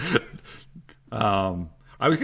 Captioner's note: laughs